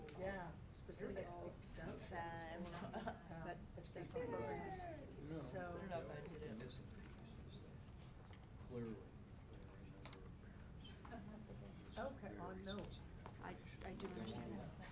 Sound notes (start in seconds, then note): 1.5 people murmuring